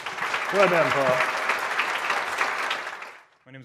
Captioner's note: audience applauding